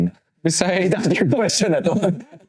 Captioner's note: speaking in foreign language